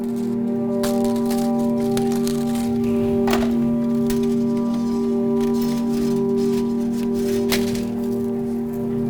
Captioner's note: clanking